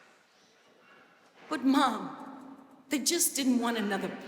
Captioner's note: none